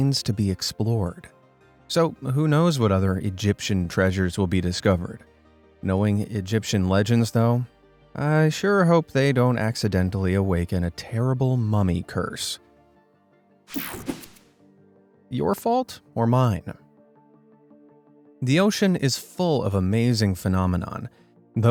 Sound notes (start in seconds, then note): 13.7 screen whooshing